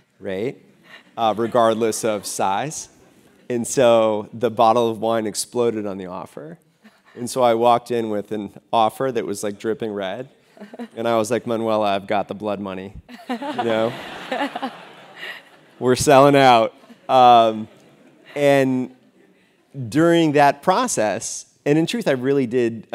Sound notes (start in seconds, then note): 13.1 laugh